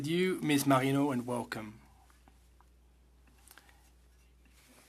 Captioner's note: speaking French